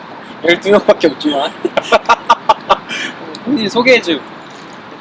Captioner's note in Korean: 현웃